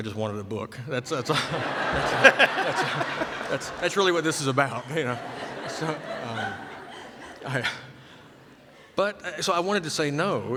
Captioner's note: laughter